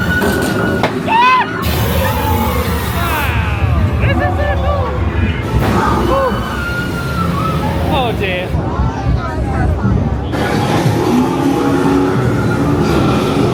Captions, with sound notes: (everybody screaming) (spooky music) Wow. This is so cool. Oh. (guests screaming) Oh dear. (guests chattering) (spooky music)